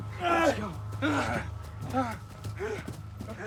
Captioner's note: pained shouting